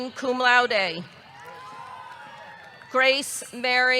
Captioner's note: audience cheering